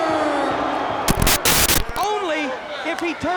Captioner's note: static crackling; graphics hissing